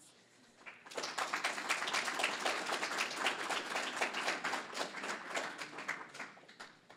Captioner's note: applause